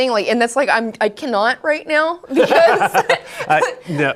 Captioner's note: laughs